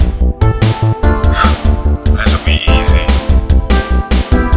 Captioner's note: scoffs